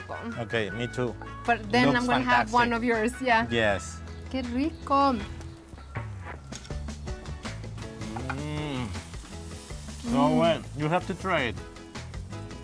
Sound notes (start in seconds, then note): 4.2 speaking Spanish